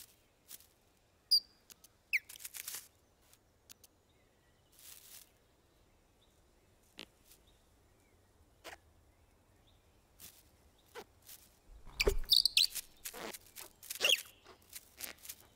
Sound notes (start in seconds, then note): 1.3 bird chirping